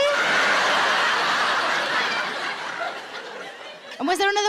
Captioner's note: audience laughs